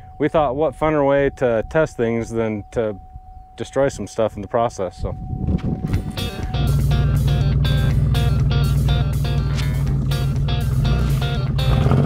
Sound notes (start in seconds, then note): 6.0 vehicle engine roaring; 6.1 upbeat music